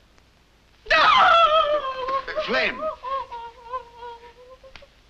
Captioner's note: dramatically